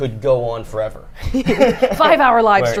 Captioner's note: both laugh